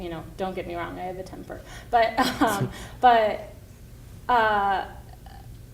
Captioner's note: laughs